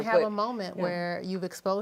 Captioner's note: none